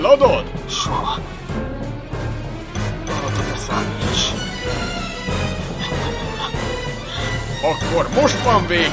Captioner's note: pants; continues to pant